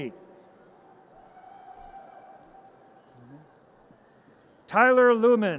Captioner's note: audience cheers